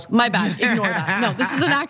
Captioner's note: laugh